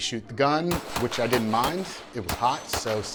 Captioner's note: gunshots bang repeatedly